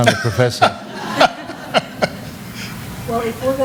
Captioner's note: laughter